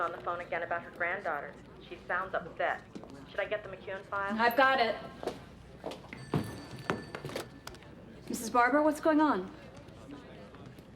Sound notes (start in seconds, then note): 6.1 phone rings